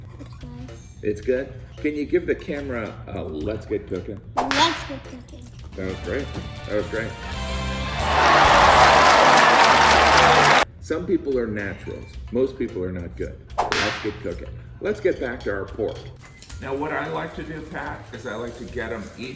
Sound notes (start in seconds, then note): 4.4 whip snapping; 7.5 upbeat music; 7.6 people clapping; 13.6 whip snapping